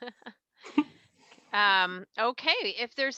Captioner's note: laughs